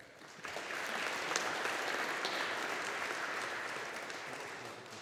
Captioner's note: audience applauding